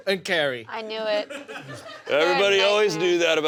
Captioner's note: laughter